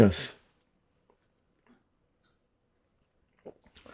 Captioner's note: pauses 4 seconds